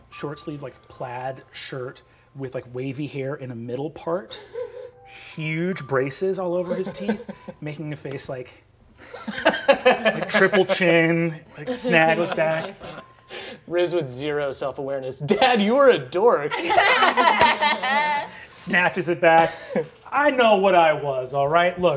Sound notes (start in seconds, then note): 9.0 laughing; 16.5 all laughing